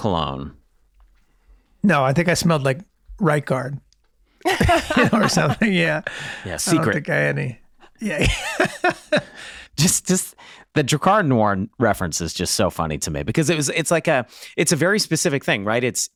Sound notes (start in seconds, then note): 4.4 laughing; 8.0 Charlie laughing